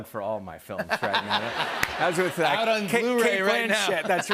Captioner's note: laughter